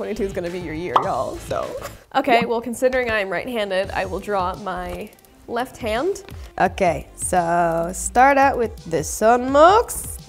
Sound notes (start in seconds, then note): 0.9 bubble pops